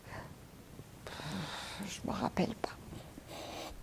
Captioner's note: sighing